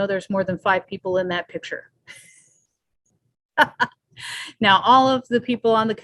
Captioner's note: laughs